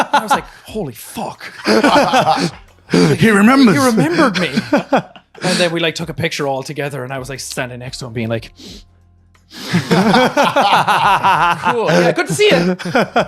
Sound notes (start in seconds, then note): 1.4 laughing; 9.5 sniffles; 9.6 laughing